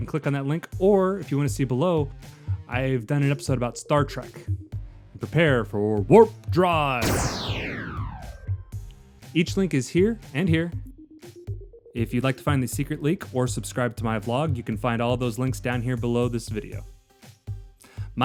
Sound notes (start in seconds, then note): 7.0 warp sound